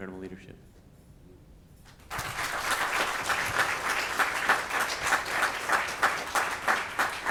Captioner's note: speaking faintly; attendees applauding